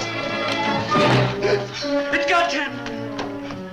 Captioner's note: gasps